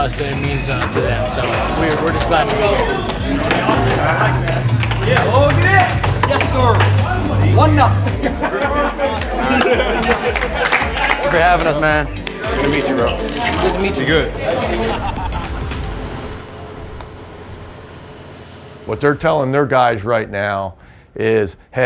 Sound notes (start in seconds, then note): 7.4 cheering